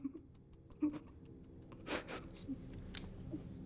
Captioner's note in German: schnieft